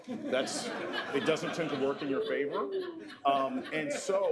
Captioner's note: laughter